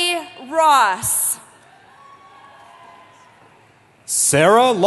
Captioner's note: cheering